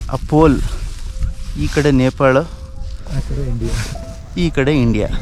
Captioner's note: in Kannada